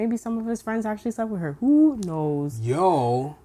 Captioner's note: none